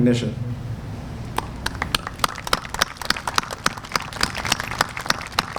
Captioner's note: applause